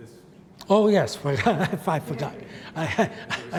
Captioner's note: laughs